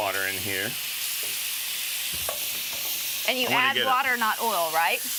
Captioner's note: sizzling